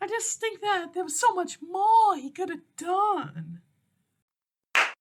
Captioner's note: clap